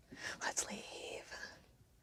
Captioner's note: whispers